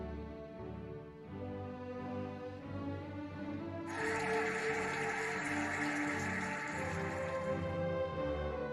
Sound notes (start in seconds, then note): 3.9 cheering and applauding